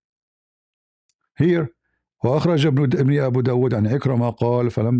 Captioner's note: Arabic; Arabic